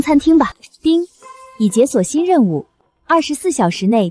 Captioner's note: ding!